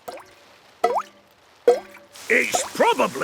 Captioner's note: water dripping